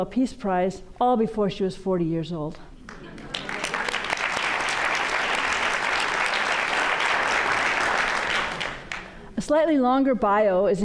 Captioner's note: applause